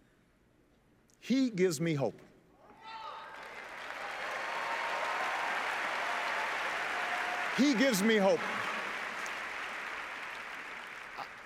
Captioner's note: applause